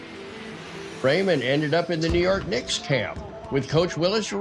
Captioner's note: pat